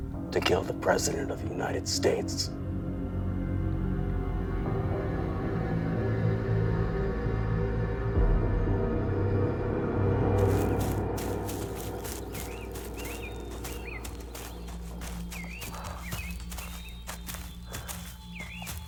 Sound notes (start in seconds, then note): 4.0 suspenseful music; 10.3 leaves crunching; 10.4 birds chirping